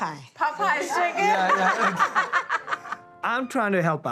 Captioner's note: laughter